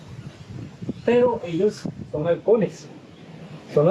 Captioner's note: in Spanish